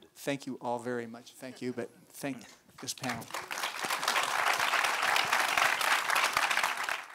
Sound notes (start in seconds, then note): 2.8 audience applauds